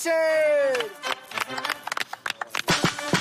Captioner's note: applause